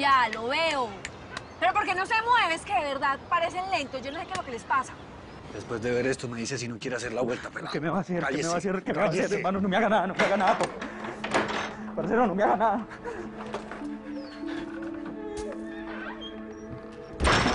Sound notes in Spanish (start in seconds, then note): 10.2 Sonido al abrir la puerta